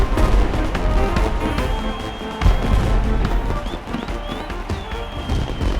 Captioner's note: crowd cheering